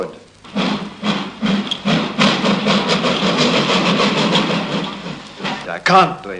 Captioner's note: chuffing sounds